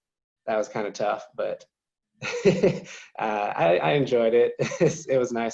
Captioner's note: laughing; laughing